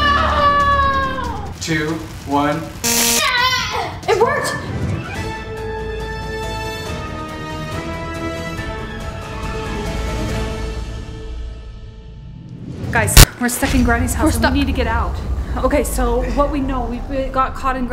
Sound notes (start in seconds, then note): 2.9 light zapping; 5.9 playful music; 9.7 playful music